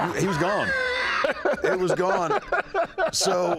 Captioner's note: both laugh